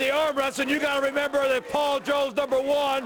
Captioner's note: crowd cheering